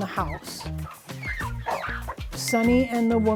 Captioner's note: chickens clucking